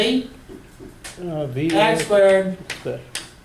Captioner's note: voiceover